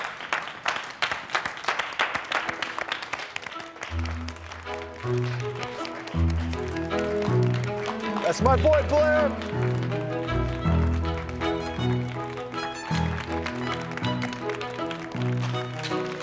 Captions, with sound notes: *scattered applause* That's my boy, Blair. *more applause*